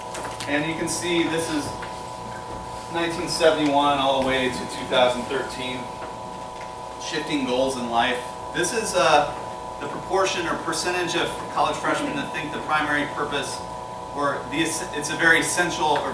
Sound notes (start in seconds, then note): none